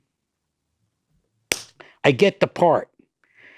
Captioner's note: hand smacks loudly